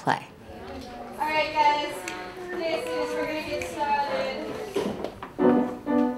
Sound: chatter

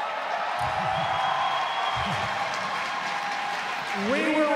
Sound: applause

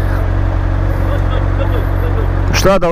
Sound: thick accent

